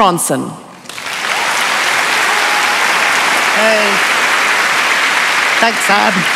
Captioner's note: applause